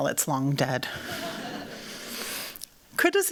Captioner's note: laughter